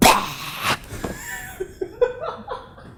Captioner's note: laughs